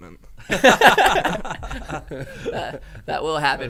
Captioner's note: men laughing